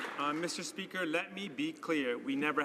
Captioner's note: some Applause